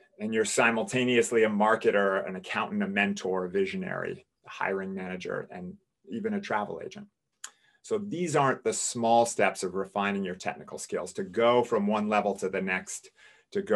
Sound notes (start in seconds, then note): none